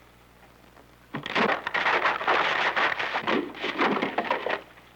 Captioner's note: wood crunching